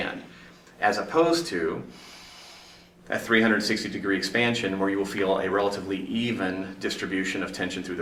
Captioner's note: takes a breath